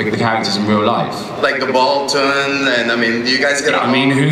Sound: voiceover

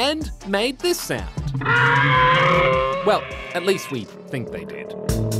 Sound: t-rex roars

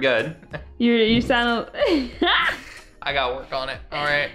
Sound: laughs

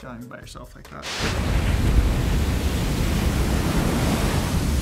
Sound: waves crashing

